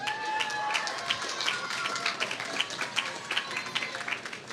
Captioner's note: applause